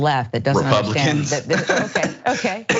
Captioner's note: laugh